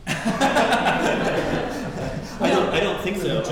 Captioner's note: laughing